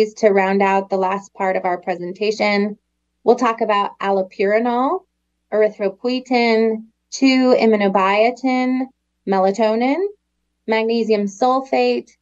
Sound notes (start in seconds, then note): none